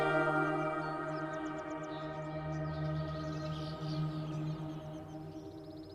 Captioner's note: birds quietly chirp; gentle music fades out